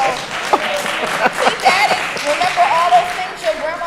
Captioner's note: applause